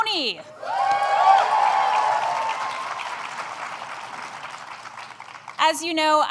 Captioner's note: applause